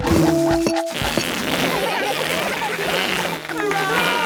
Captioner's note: balloon squealing; children laughing; applause, cheering